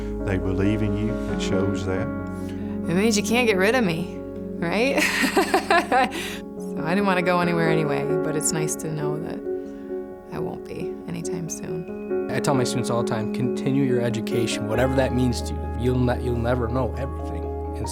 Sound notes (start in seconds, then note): 4.9 laughing